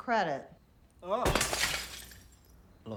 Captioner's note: glass breaks